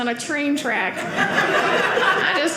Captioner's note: audience laughing